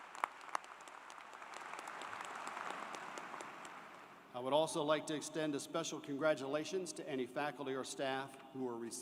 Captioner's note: applause